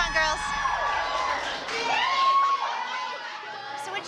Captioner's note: whooping